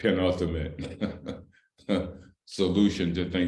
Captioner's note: laughter